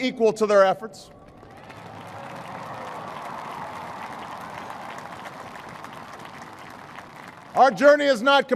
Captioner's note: applause